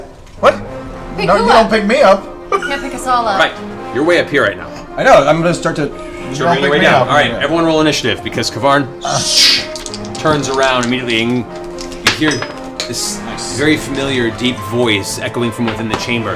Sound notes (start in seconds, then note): 2.5 laughs